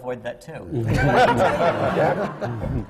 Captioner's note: laughter